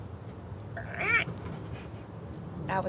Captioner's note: funny sound